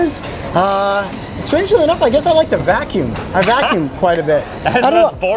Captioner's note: laughs